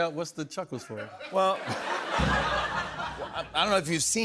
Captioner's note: laughter